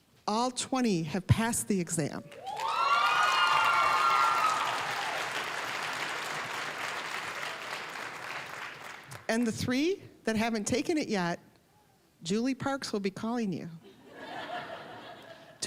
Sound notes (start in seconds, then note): 2.3 applause, cheering; 5.6 applause; 14.0 audience laughing